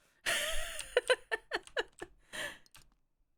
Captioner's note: laughs